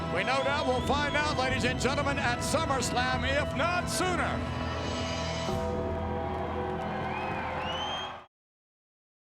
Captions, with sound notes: We know that we'll find out, ladies and gentlemen, at SummerSlam, if not sooner. (ominous music continues) (crowd cheering)